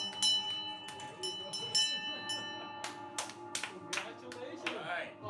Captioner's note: bell dinging